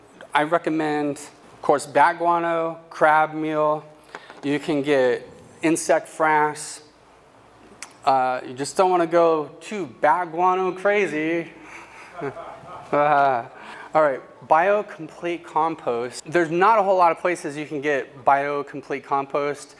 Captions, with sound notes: I recommend, of course, bat guano, crab meal. You can get insect frass. You just don't want to go to bat guano crazy! [Laugh] All right. Bio-complete compost. There's not a whole lot of places you can get bio-complete compost.